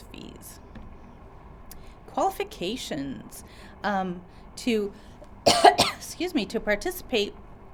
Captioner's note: cough